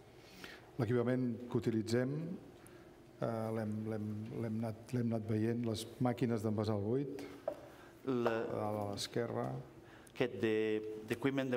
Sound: speaking catalan

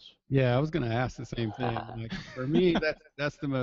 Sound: voiceover

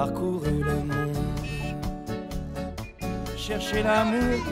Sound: romantic music; horns honking

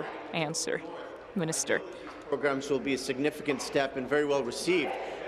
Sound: speaking in french

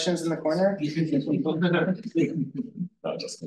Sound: group laughing

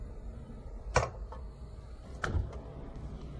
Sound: oven clicking on; thud

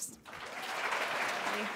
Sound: applause

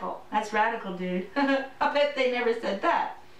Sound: laughter

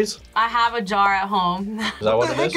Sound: laughs

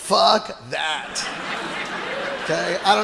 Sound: audience laughing

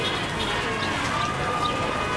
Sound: car horns

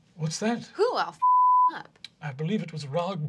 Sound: beeping

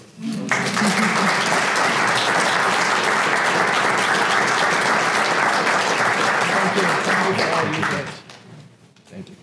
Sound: applause

